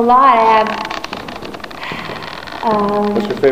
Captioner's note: sigh